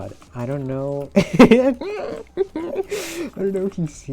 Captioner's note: laughing